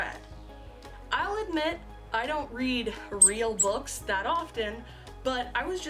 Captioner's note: squeak squeak